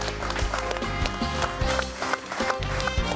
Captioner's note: audience applauding; bright music